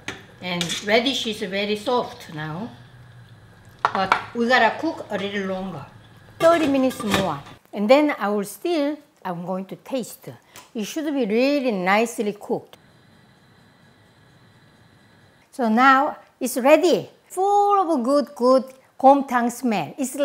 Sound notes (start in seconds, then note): 0.5 tong clanking; 3.8 tong thudding; 6.6 lid clanking